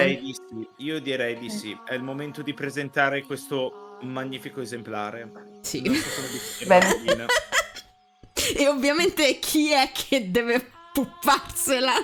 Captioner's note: laughing